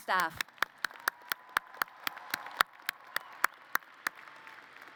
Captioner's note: applause